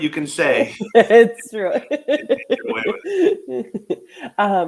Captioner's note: laughs